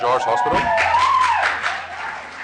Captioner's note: cheers and applause